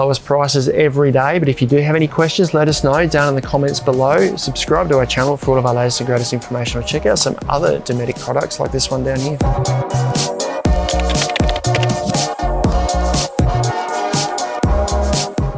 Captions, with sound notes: at our lowest prices every day but if you do have any questions, let us know down in the comments below. Subscribe to our channel for all of our latest and greatest information or check out some other Dometic products like this one down here. (upbeat music) (keyboard clutter)